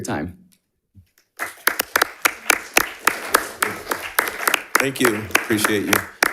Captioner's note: crowd applauding